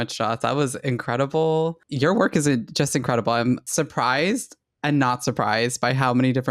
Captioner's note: none